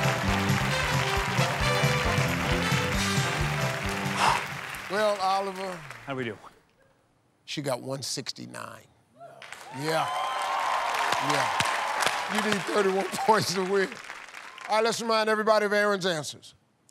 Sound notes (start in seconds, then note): 0.0 cheers and applause; 4.1 exhales sharply